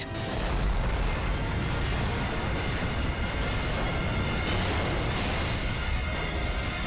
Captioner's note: thrilling music; jet explodes